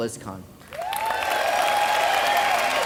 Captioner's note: cheers